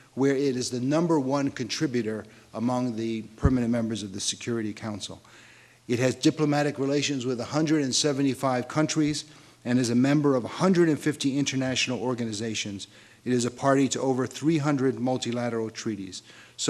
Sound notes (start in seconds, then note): none